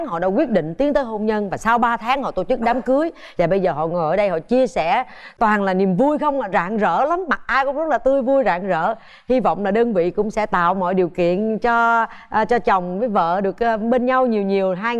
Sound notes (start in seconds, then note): none